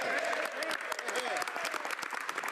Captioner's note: speaking French